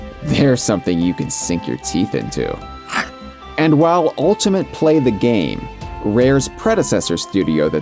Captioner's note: biting noise